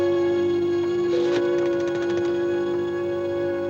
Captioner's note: rotary phone dialing sounds